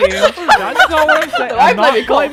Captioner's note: laughing; laughter